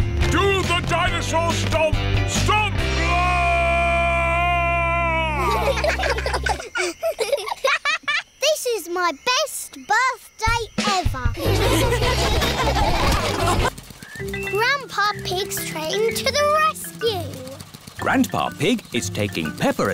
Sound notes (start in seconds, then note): 5.3 children giggle; 11.4 all laughing